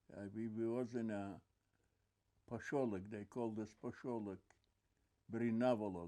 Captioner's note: non-english